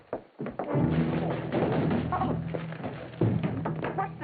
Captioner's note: parcels clattering on the floor